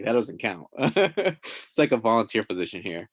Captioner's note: laughing